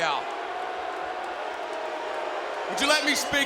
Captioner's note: crowd booing continues